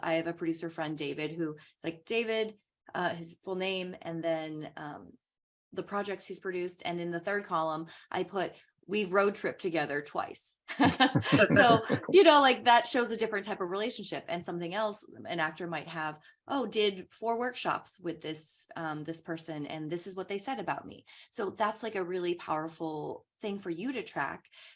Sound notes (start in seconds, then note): 10.7 laughing